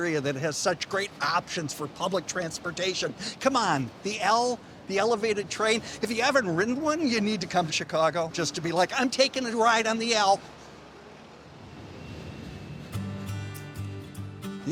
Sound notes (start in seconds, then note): 11.4 train whooshing; 12.8 gentle acoustic music